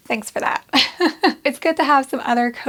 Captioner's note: laughs